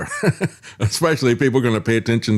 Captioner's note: laughs